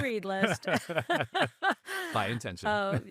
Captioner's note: laughing